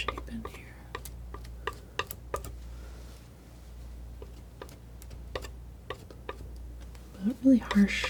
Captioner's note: tapping